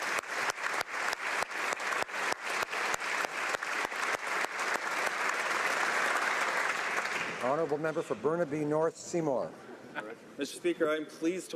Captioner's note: applause